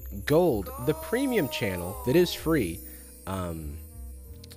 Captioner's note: disembodied voice